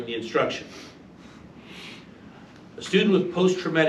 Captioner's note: sniffles